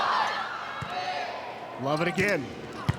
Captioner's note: ball thumping